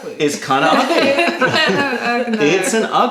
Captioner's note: laughter